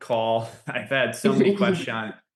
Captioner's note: laughs